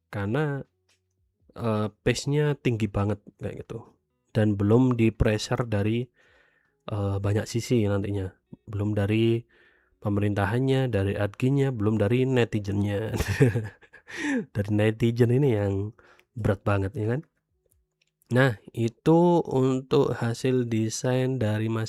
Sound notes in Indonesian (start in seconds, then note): 13.2 tertawa; 14.0 terkesiap